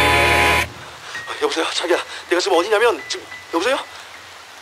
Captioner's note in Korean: 빗소리